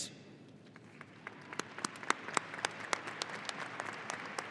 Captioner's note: audience applauding